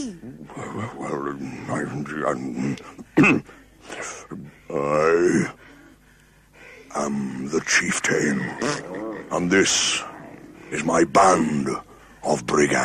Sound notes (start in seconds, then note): 1.3 muttering; 3.1 clears throat